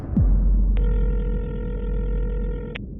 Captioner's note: line trilling